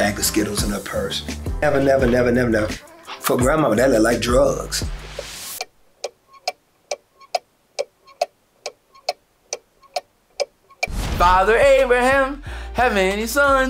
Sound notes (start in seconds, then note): 5.1 ticking sound